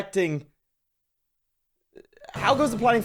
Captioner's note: akward silence